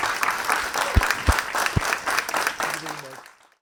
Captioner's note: audience applauds